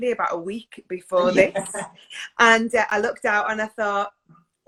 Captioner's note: laughs